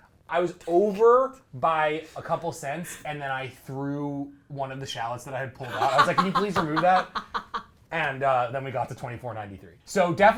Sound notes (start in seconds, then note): 5.7 laughs